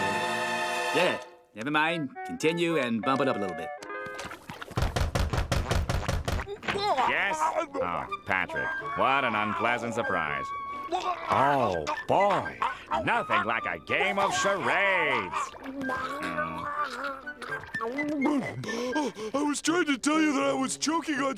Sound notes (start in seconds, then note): 4.8 knocking; 17.8 gasping